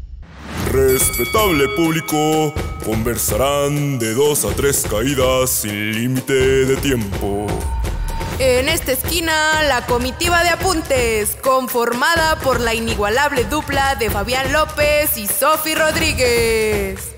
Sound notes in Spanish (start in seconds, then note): 0.1 Habla con voz de presentador de luchas; 7.7 Habla con voz de presentadora de luchas